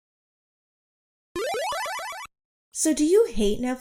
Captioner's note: Castlevania game sound effect 1